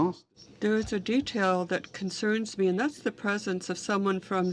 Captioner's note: speaking French